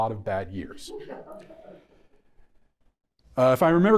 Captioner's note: audience members laughing